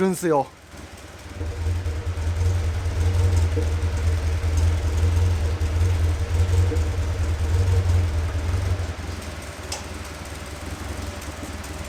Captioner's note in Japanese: 排気音